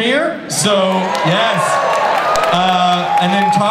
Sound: audience cheers

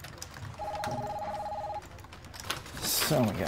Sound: telephone ringing

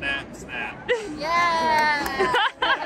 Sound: claps; laughs

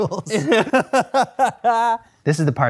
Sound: laughter

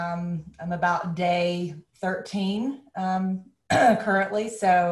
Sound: coughs

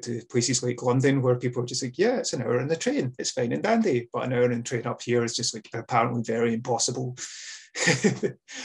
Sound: laughs

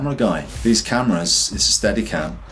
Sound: air whooshes

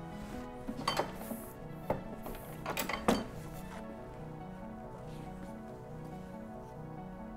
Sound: rhythmic instrumental music; ink press clanks

